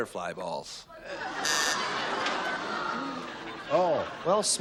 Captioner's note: laughter